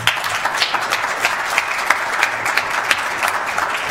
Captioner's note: applause